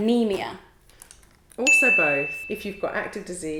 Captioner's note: bell dings